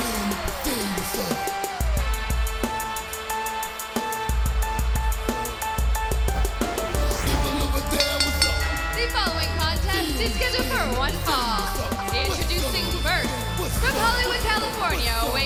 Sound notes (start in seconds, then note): 8.7 bell ringing